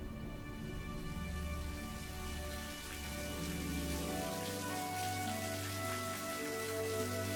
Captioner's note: gentle upbeat music; water trickling